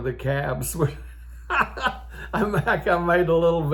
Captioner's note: old Man laughing